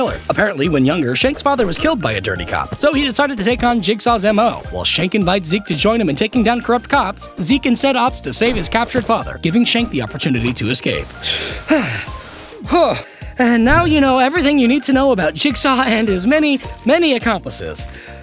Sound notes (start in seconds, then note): 11.1 heavy Breaths